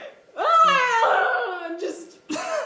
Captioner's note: screaming